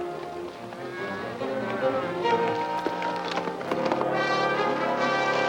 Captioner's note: cows mooing; tense music